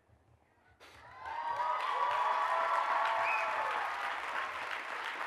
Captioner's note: audience cheers and applauds